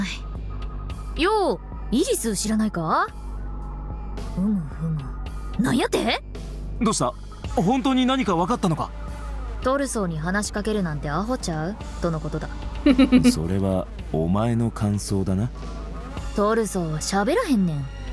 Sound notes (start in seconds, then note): 12.8 chuckles